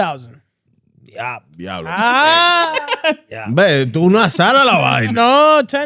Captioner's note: speaking In Foreign Language